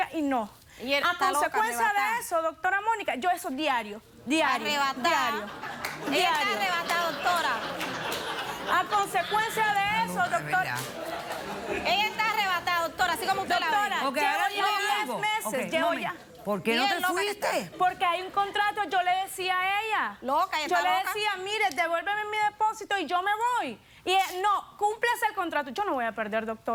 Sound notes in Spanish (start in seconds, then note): 9.0 risas del público; 9.9 risas